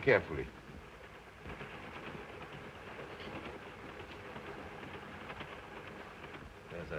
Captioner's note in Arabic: صوت خشخشة القطار